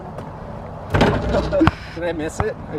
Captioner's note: basketball hoop bangs; chuckles